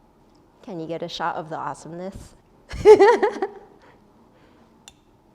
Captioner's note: laughs